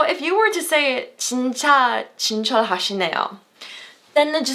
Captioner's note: foreign language